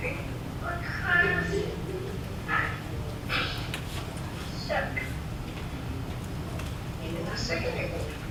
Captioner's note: clear Throat